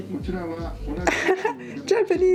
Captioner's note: man speaks in English; he is dubbed into Japanese